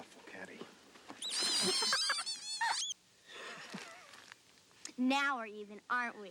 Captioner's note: toys squeaking; Caddie giggles